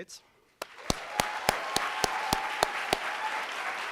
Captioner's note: applauding